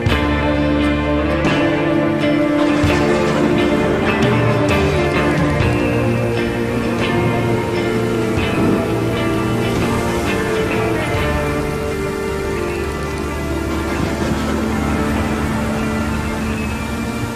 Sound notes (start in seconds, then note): 2.5 thunder; 6.7 water rushing